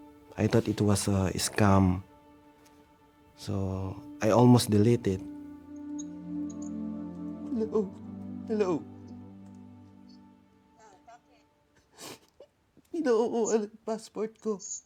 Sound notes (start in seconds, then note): 10.0 muffled voice from phone